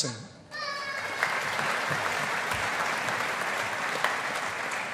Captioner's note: audience applauding